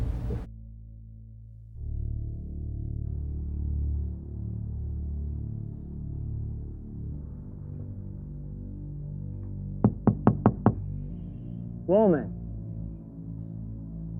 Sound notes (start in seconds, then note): 2.4 tense music; 9.8 Mr. Batson knocking